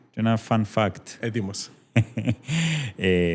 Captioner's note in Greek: γέλιο